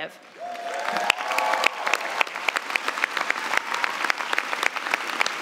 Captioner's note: cheers and applause